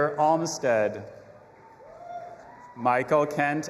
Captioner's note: audience applauding and cheering